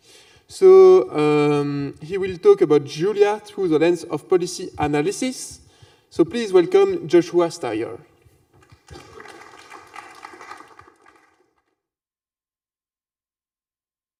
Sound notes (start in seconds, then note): 8.6 applause